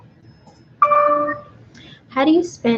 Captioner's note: computer dings